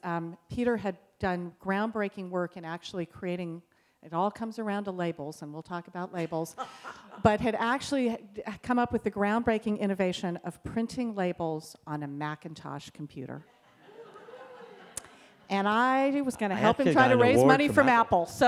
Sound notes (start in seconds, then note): 6.5 laughter; 13.6 laughter from audience